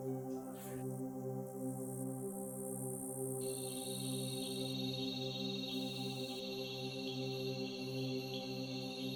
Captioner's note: the sound of insects